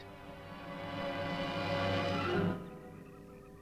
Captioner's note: dramatic instrumental music; engine humming